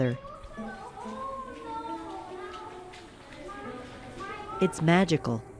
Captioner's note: children chatting and echoing in tunnel